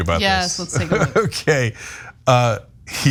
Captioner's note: laugh